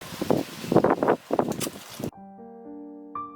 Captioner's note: wind; mysterious piano music